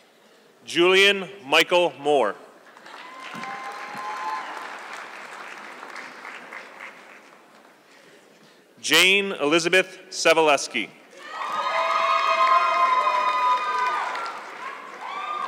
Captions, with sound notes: Julian Michael Moore. (audience clapping) Jane Elizabeth Sebaleski. (audience clapping)